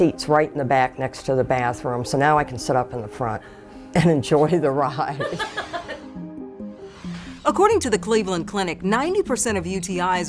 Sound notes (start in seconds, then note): 5.2 laughs